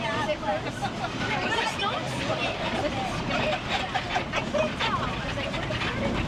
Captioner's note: people chattering; tram rattling